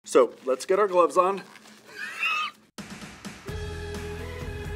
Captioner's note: gasps; bright music